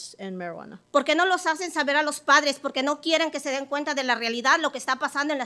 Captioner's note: speaking Spanish